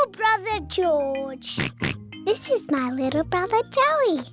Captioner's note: oinks